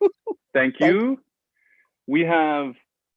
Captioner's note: laughing